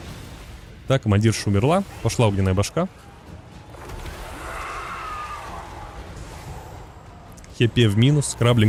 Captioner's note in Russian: крик